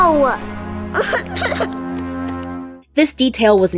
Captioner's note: cries